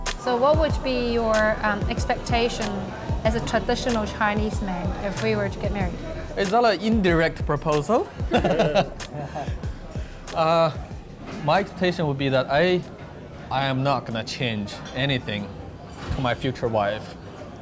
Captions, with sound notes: - So what would be your expectation as a traditional Chinese man if we were to get married? - It's not an indirect proposal. (laughs) My expectation would be that I am not going to change anything to my future wife, right?